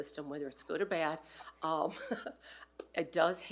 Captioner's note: laughs